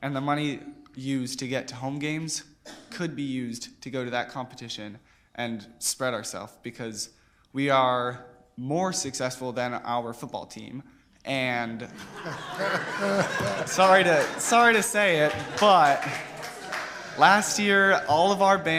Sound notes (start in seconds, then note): 11.8 group laughter